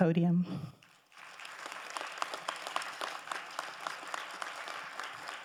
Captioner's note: crowd applauding